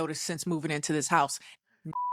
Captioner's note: beep